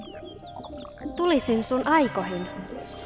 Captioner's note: speaks in Muinein language